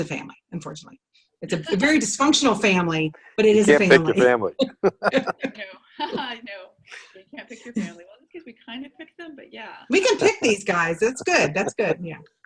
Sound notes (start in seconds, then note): 1.8 laughter; 6.1 laughs; 11.2 laughter